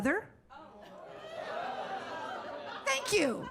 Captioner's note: audience gasps